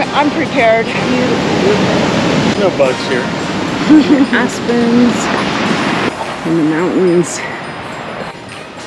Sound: laughter

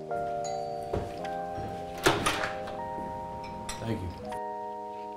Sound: door bell rings

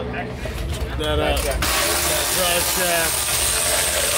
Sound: drill sound

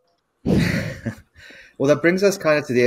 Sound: chuckling

